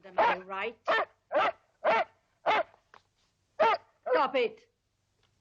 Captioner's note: dogs barking